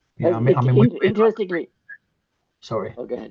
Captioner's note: participants chattering